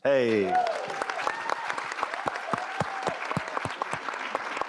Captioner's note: audience applause